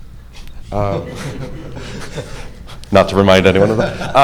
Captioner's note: audience laughing